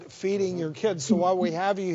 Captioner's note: laughs